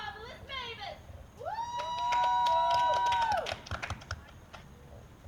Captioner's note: more cheering